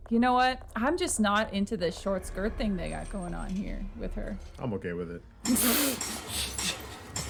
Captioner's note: laughs